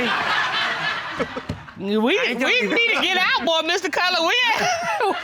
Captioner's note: all laugh; chuckles